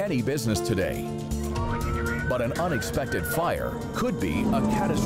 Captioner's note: sirens roar